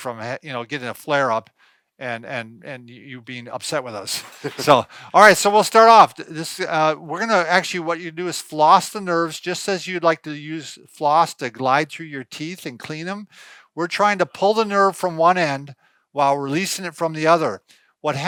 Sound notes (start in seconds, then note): 4.2 laughing